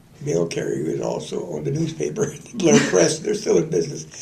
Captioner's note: laughter